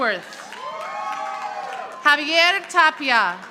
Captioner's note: audience applauding